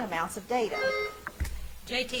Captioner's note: bell ringing